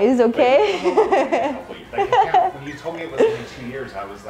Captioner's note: laughs